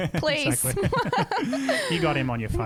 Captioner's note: laughing together